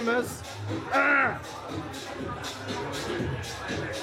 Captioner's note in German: räuspert sich